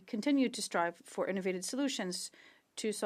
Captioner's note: speaking French